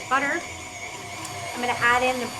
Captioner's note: mixer whirring